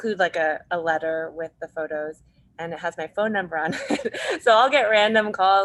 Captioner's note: laughs